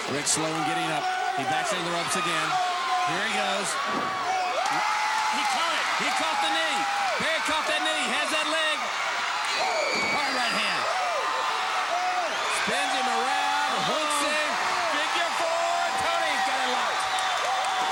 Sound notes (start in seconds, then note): 4.0 footsteps plodding; 9.4 blows thudding